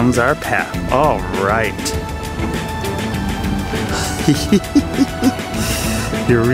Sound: laughing

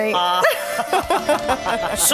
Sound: laughing

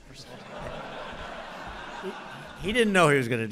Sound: laughter

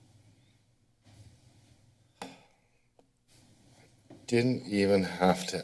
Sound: silent

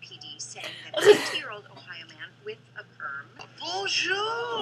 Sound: chuckles

